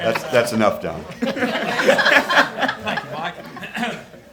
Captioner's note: attendees laugh